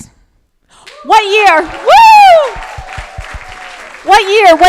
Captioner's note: crowd applauding